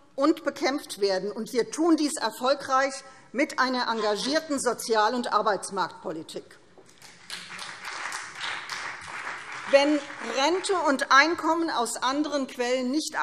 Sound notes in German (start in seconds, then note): 7.0 Beifall CDU und BÜNDNIS 90/DIE GRÜNEN